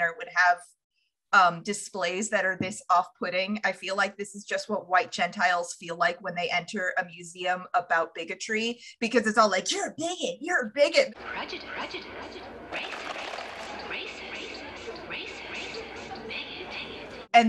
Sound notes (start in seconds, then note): 11.3 echoey voices